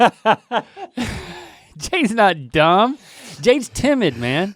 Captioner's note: laughing